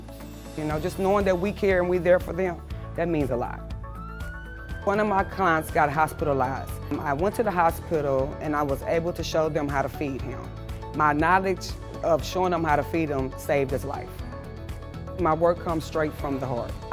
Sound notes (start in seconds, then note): 3.8 siren